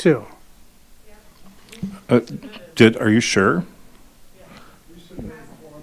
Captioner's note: group chattering